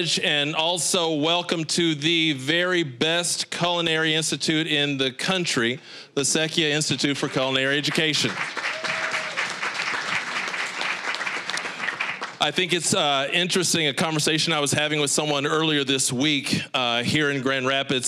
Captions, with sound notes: and also welcome to the very best culinary institute in the country, the Secchia Institute for Culinary Education. (applause) I think it's interesting-- a conversation I was having with someone earlier this week here in Grand Rapids,